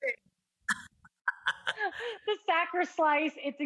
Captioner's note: laughs